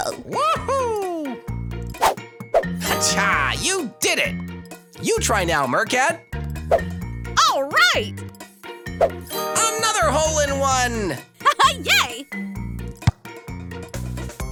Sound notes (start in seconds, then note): none